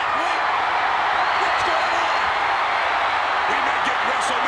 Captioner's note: crowd cheering